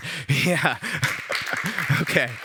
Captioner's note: applause